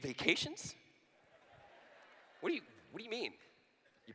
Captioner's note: laughter